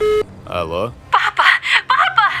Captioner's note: Zohrab's phone rings; on phone